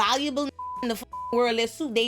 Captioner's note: beep